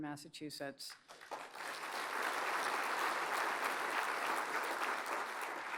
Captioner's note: applause